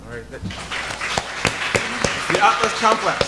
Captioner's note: audience applauding